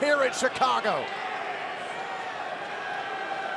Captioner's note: crowd chatter